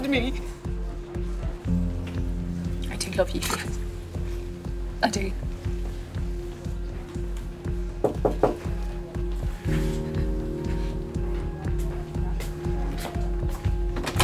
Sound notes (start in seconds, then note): 8.0 knocks on the door